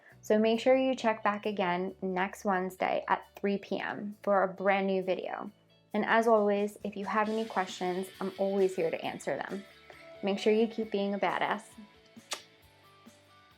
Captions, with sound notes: So make sure you check back again next Wednesday at 3pm for a brand new video. And as always, if you have any questions I’m always here to answer them! Make sure you keep being a badass *kiss*